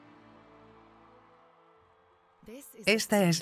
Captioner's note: people cheering